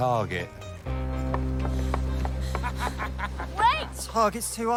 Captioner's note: panting; laughs